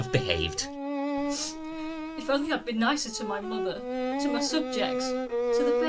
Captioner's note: sniff!